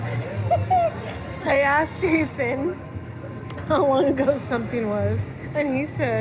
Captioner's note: laughing